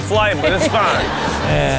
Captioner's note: laughing